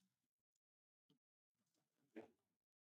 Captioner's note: silence